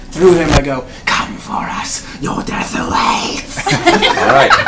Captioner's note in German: flüstert; Gelächter